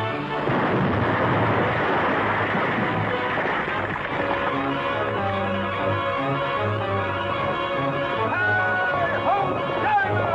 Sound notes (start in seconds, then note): 0.0 gunshots; 0.3 explosion; 2.6 rocks falling